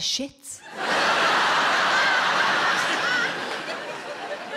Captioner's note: audience laughing